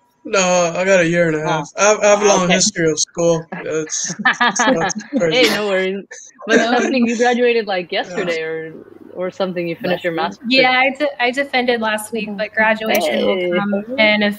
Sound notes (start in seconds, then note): 4.5 laughter drowns out speaker